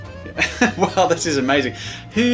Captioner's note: laughs